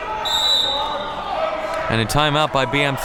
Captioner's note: whistle blows